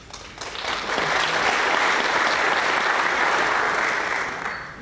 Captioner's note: applause